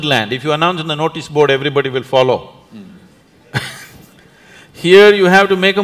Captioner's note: laughs